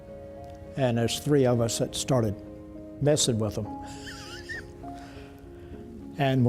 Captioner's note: laughs